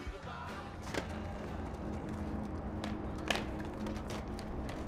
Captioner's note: skateboard sliding